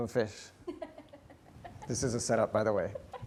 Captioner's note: laughing